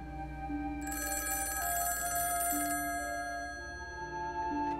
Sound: phone ringing

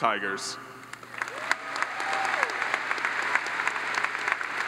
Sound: audience applauds

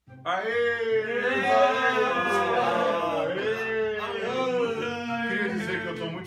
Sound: and other silly sounds

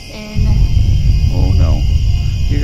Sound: low rumbling

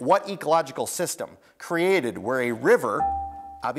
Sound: buzzer beeps

